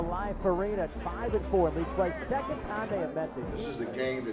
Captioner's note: faintly speaking